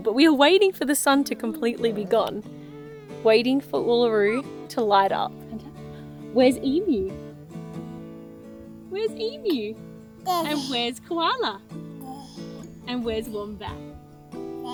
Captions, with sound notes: but we are waiting for the sun to completely be gone. Waiting for Uluru to light up. Where's Emu? Where's Emu? (grunts) - And where's Koala? (grunts) - And where's Wombat?